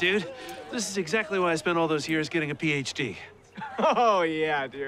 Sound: laughs

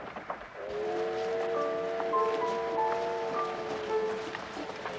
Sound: train horn whistling

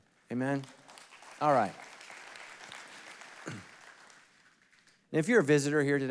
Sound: congregation applauding

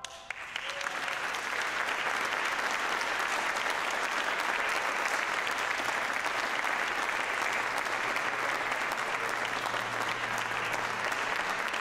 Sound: applause

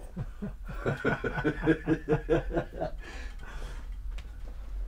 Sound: laughing

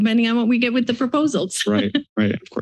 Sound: chuckles

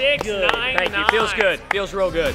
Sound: applause

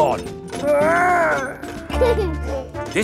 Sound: giggles

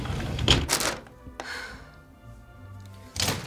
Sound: huffs

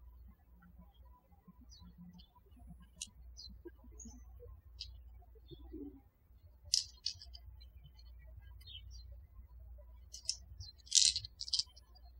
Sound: birds chirping

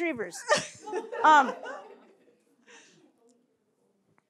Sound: laughter

